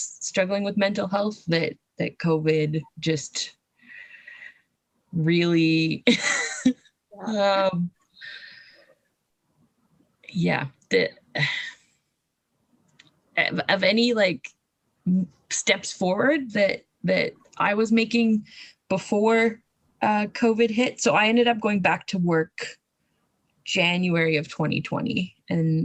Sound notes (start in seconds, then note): 6.1 laughs